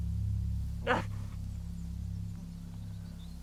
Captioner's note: groaning